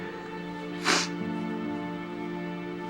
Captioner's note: sniffling